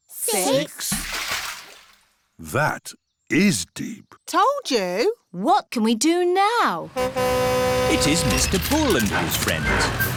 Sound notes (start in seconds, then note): 0.5 splash; 6.9 horn honks